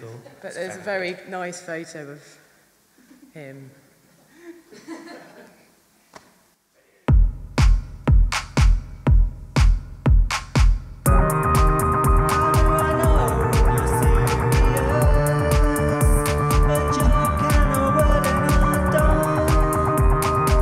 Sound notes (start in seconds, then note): 4.5 audience laughing; 7.0 synths playing